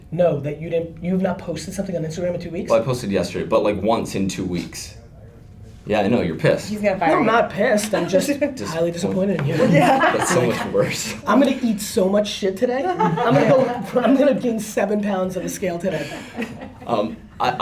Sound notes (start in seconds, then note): 9.5 laughter; 12.8 laughter